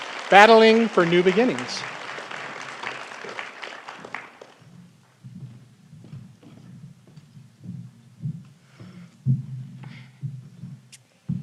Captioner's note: applause